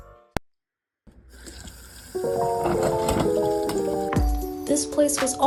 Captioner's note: dishes